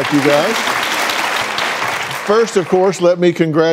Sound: audience applauds

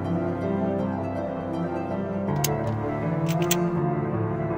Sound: dramatic music; gun cocks; dramatic music

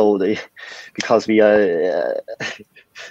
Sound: chuckling

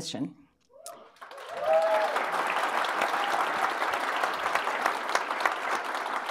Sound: audience cheering; audience applauding

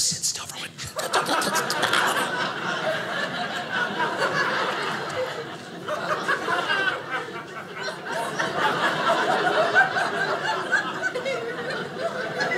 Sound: audience laughing

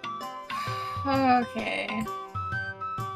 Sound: exasperated

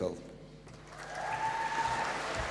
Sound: applause

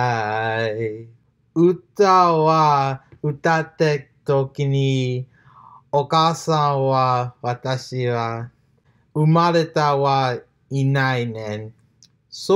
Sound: continues in japanese

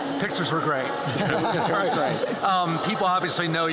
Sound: laughter

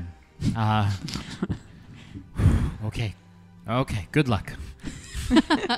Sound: lets out a breath; laughter

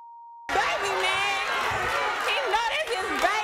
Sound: beep

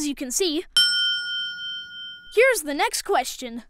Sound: bell rings

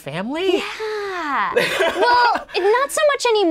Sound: laughing

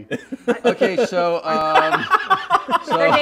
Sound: laughter

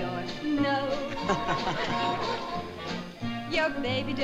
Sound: laughs

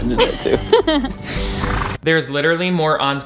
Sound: both laughing

